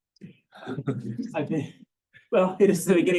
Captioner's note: laughs